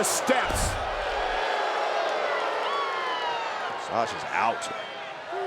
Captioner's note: crowd jeering